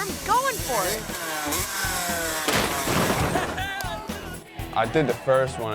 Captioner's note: dirt bike rumbles and thuds